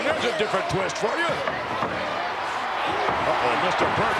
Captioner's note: crowd shout